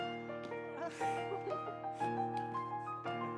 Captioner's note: woman laughs nervously